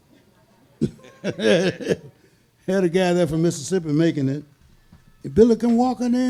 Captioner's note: laughs